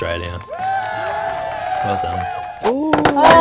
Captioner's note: applause